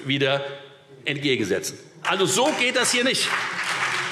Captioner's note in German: Beifall Freie Demokraten, CDU und BÜNDNIS 90/DIE GRÜNEN